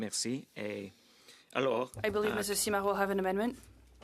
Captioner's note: speaking French